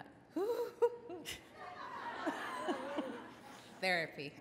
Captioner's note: audience laughs